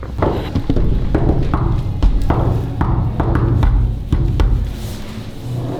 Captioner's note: door rumbling rhythmically